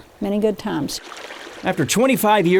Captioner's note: water bubbling